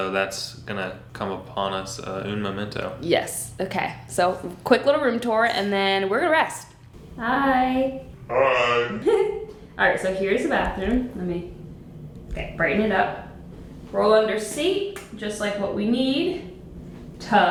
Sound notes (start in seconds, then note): 9.2 laughing